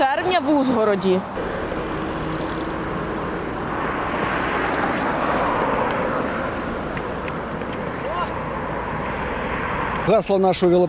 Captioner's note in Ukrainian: звук автомобілів